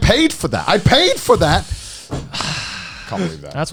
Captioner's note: groans; sighs